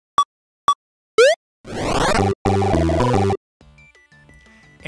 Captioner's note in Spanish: efectos de sonido de juego